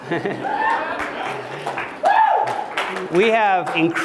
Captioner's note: applause